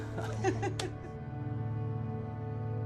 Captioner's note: all laughing